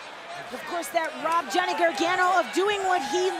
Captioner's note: crowd chatter